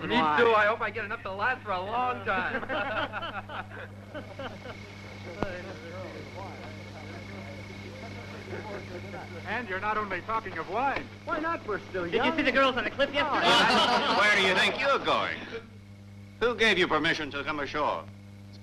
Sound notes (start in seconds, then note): 2.2 laughing; 2.6 chattering